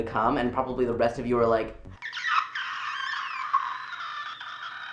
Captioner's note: screech